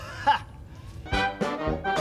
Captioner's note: <i> laughs</i>